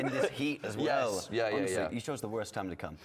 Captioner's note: laughter